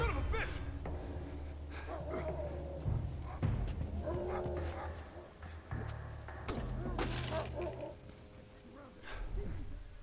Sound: dogs barking

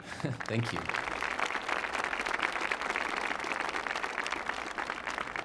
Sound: audience clapping

